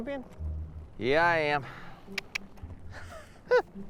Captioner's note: clicks his tongue; chuckles